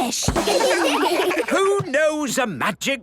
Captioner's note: children laugh